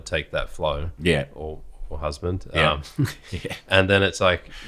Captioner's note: laughs